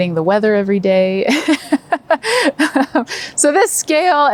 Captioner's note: laughing